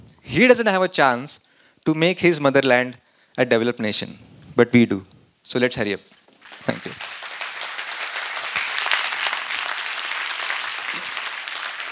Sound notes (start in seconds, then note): 6.4 applause